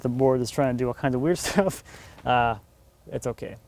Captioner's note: laughs